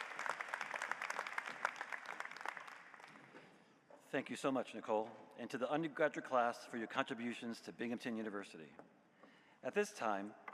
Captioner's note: applause